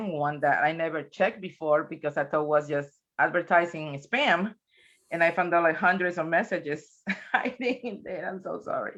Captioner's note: chuckles